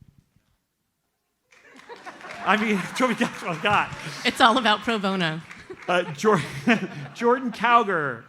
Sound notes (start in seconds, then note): 1.6 audience laughs